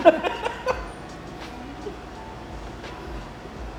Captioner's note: laughs